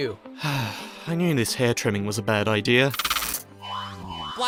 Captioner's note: sigh